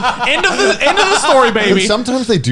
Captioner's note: laughs